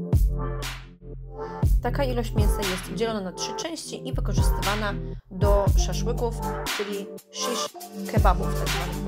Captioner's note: in Turkish